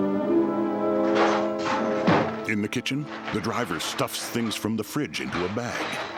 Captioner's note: clanking